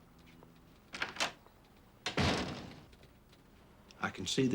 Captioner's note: door opens and closes